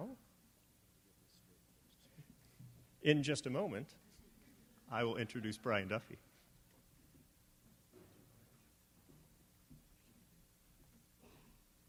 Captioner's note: silence